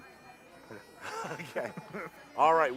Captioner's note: chuckling